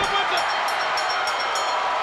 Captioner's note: bell dinging; crowd cheering